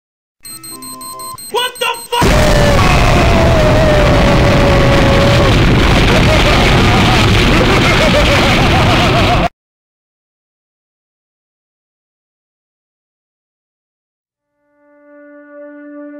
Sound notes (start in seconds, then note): 2.2 boom!; 6.0 goofy laughter